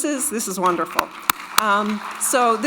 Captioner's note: all applauding